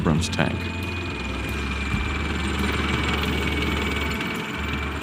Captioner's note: tank engine roaring